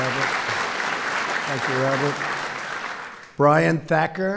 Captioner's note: applause